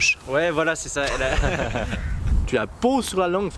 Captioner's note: laughs